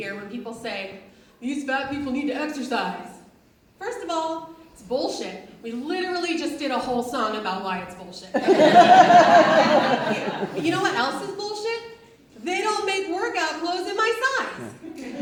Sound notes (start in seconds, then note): 8.3 audience laughs